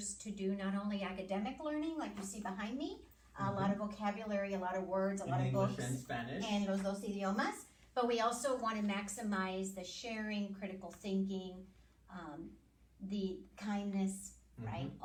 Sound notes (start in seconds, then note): 7.1 speaking Spanish